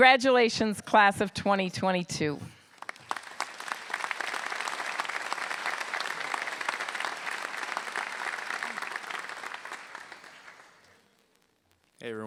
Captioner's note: applause